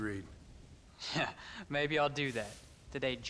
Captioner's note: laughing